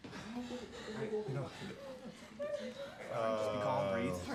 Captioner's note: crying